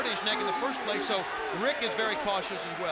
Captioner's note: crowd chatter